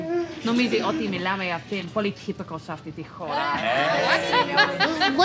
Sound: non-english speech

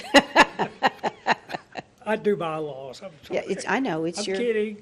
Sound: laughter

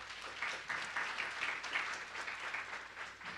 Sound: applause

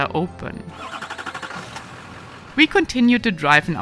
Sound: vehicle starting

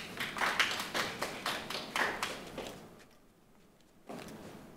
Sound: group clapping

